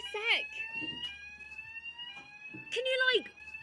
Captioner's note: fire alarm blaring